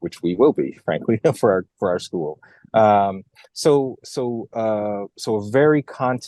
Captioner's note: laugh